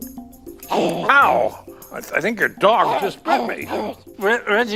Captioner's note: dog growling